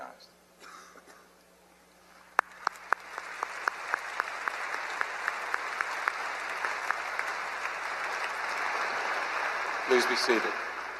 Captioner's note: applause